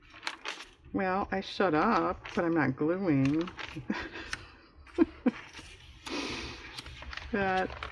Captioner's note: laughs